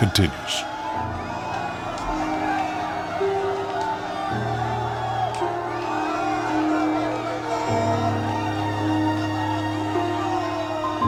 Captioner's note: shouting